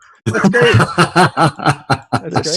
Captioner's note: laughing